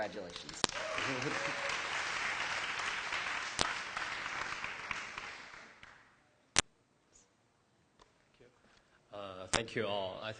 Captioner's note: applause